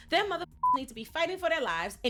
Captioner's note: beep